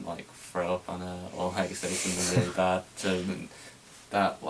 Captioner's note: Arnold chuckles